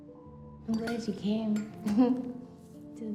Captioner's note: laughs